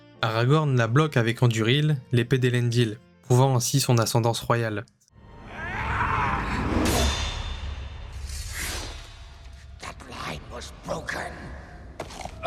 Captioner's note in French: cri; gémissement